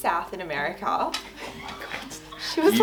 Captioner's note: laughing